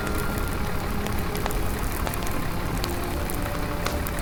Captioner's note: gentle music; fire raging; gentle music